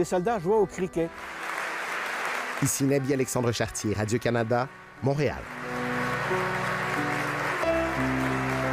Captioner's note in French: applaudissement